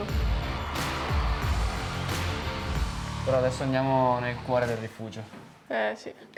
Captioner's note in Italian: Applauso